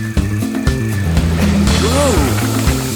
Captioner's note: engine roaring